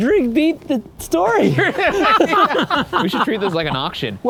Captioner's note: group laughing